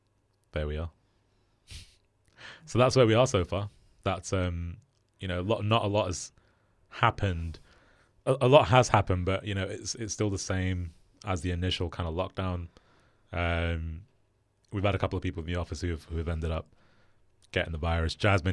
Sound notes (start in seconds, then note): 1.9 laughs